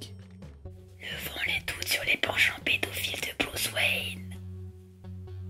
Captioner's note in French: Chuchotant